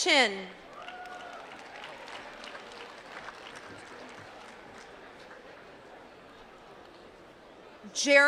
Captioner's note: applause